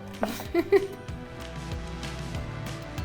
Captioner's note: laughing